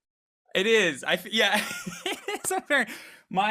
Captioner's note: laughs